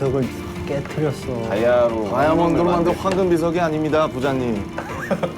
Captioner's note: rumbling